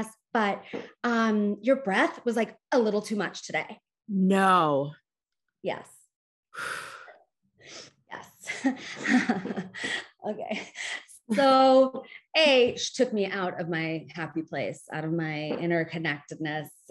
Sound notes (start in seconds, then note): 6.6 sighs; 8.5 chuckles